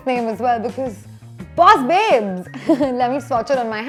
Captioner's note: laughs